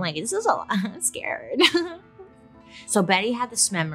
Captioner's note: gentle music; giggles